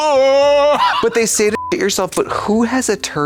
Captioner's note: beep